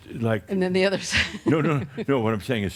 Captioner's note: she chuckles